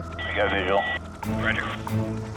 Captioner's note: man Over Radio; person Over Radio